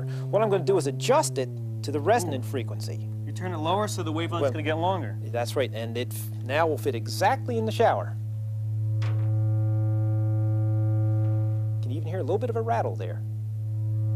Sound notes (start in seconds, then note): 9.4 continued but different low humming